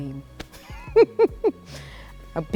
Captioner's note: laughs